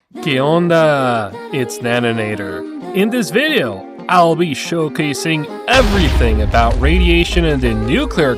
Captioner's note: Spanish